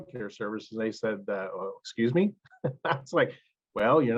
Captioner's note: laughs